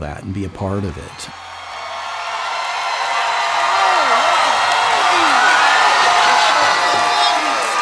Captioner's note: audience cheering